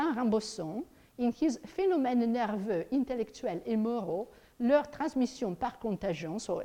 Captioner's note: speaks in foreign language